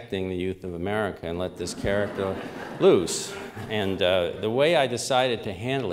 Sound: laughter

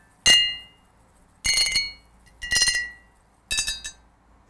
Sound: glass ringing different notes

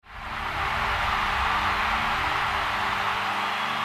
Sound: crowd cheering

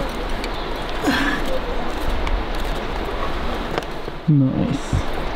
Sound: grunts

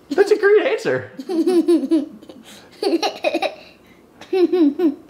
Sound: laughing

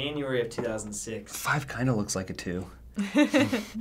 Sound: laughs

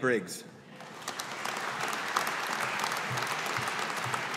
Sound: audience applauding

